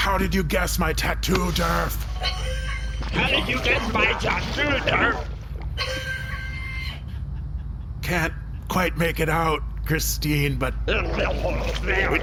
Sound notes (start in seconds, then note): 3.8 slushily; 7.1 laughter